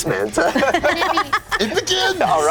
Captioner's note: laughing